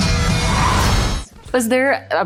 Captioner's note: brakes screeching